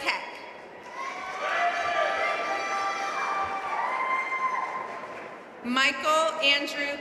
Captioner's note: audience cheering and applauding